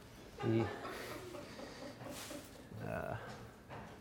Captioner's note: audience laughs